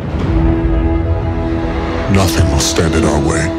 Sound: moves into dramatic music; voiceover

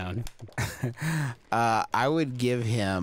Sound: laughing

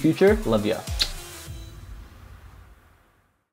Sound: kissing sounds

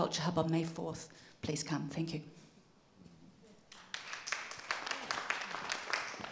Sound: applause

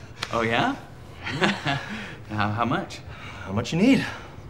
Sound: laughs

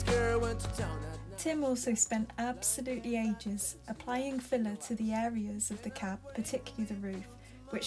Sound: voiceover

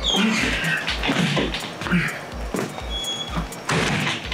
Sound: Gourmand grunting

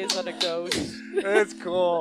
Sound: sound of clapping

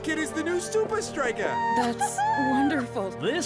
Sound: cheering

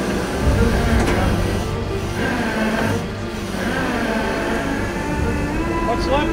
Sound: machinery dragging; suspenseful music

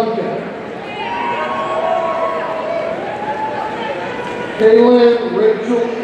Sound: audience cheering

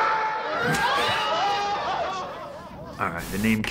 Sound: laughs

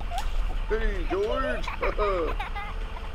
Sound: laughing

